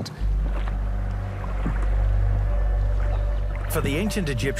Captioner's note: gentle suspenseful music; water babbles